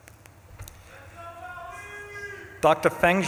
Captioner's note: audience member shouts